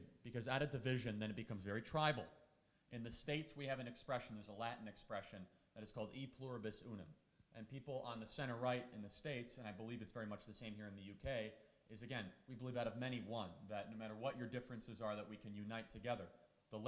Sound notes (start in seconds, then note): 6.1 speaking in foreign language